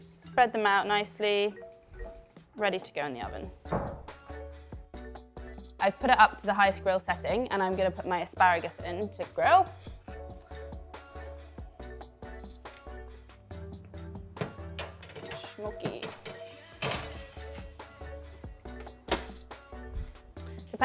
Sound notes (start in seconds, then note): 4.1 soft upbeat music; 16.8 baking tray clanking; 18.2 soft upbeat music